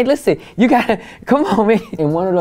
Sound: Larenz chuckles

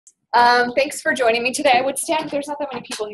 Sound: voiceover

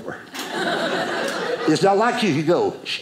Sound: audience laughing

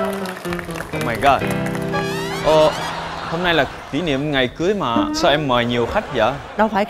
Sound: bad Vietnamese

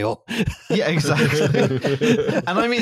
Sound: laughter

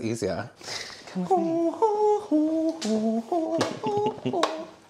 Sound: some Satanic Humming

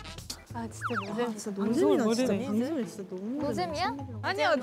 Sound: murmur murmur

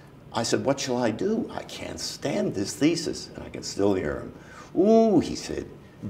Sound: in Irish accent

